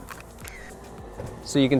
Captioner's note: camera clicks